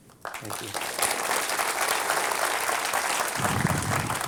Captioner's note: applause